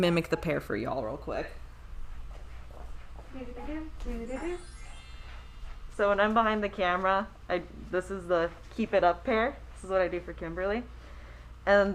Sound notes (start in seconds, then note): 3.6 humming